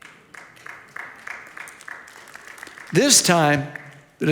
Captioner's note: audience applauds